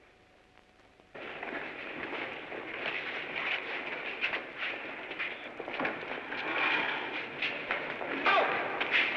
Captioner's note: sound of bodies shuffling